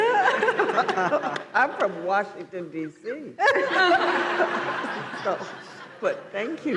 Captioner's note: laughs; laughter